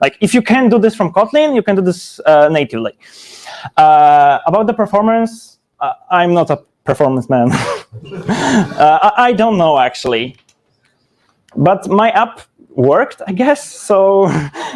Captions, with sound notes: Like if you can do this from Kotlin, you can do this natively. About the performance. I'm not a performance man. (chuckles) (audience chuckles) I don't know actually. But my app worked, I guess. So-